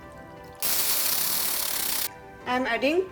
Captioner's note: blender whirring